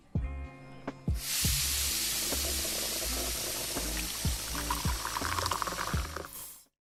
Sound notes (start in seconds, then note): 4.6 water burbling